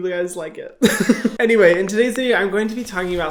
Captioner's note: chuckles